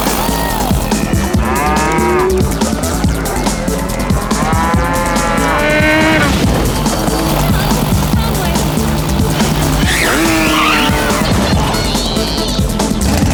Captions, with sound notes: [cows mooing] Uh oh. Wrong way. Yippee ki yay.